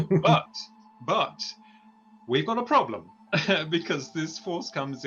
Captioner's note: chuckles